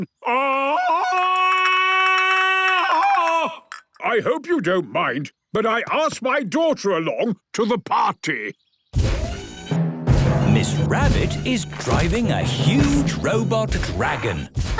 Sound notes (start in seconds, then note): 0.2 Tarzan call; 10.0 thudding, mechanical whirring